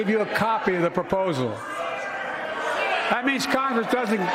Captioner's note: shouting and boos